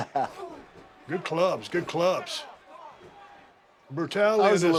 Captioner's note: laugh